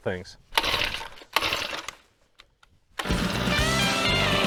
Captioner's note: drill starting